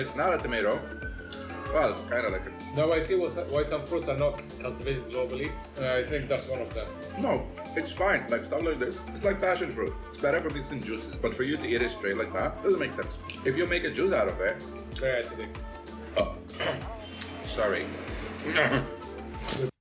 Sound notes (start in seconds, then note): 16.1 burp